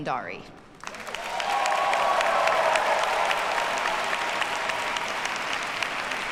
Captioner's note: audience cheers and applauds